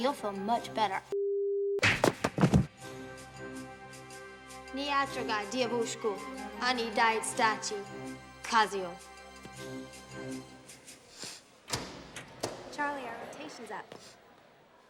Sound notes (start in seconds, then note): 4.7 speaking russian